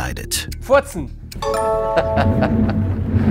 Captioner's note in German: Markus lacht